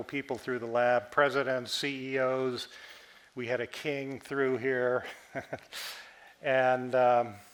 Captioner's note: chuckles